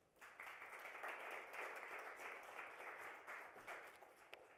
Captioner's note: applause